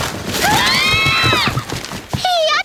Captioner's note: shriek in unison